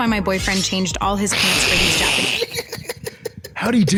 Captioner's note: giggling